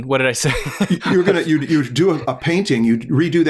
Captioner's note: chuckles